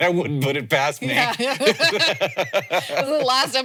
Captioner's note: both laughing